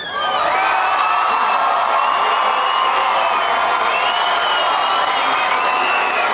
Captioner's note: audience cheering and applauding